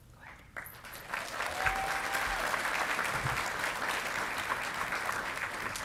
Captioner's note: audience clapping and cheering